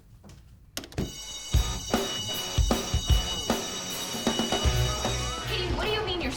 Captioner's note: bell ringing; dramatic music